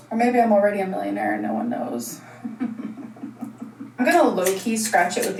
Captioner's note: laughs